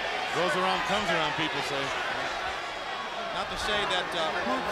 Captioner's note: crowd chatter